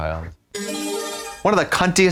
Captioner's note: bright chime